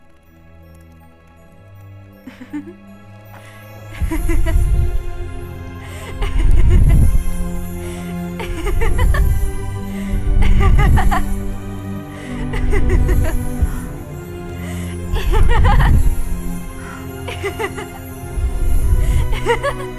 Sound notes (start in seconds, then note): 0.2 alarming music; 3.3 laughter, magic sounds